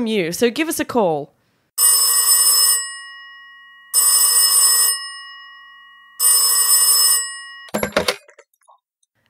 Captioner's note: phone rings